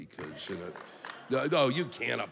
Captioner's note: applause